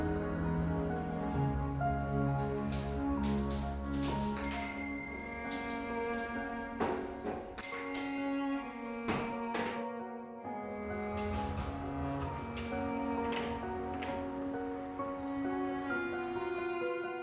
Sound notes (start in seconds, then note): 0.2 gentle music; 3.0 door lock unclicking; 4.7 bells chiming; 6.7 gentle music; 6.8 bells chiming; 8.7 gentle music